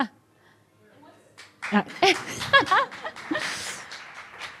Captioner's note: applause